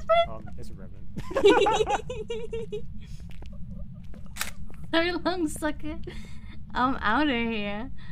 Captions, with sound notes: Uh, It's a revenant *both laughing* So long sucker! I'm outta here!